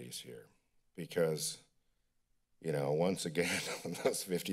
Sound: chuckles

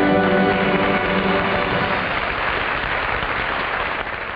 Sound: audience applauding

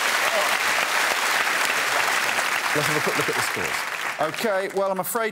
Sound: cheers and applause

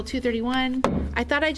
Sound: gavel bang

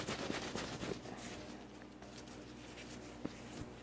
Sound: cloth ruffles

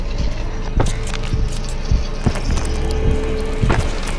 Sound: feet clunking

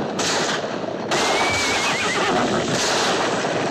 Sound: horse whinnying

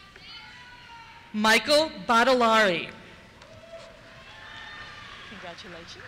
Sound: cheers

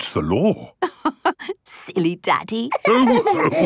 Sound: laughing

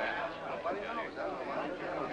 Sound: crowd chattering

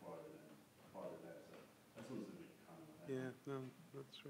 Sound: voice fades

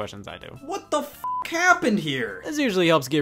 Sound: beep

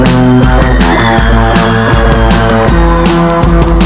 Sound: audience screams

